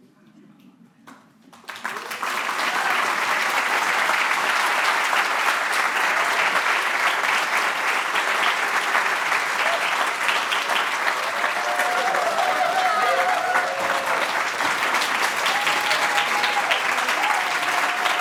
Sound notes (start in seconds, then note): 1.3 applause